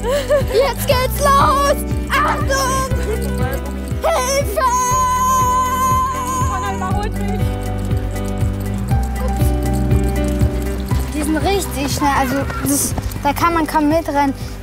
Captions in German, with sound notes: Jetzt geht's los! Achtung! (schreit freudig:) Hiiiiilfeeee! - Connor überholt mich. (Heitere Musik) Die sind richtig schnell, also da kann man kaum mitrennen.